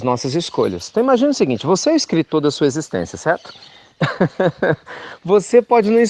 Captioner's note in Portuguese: Risos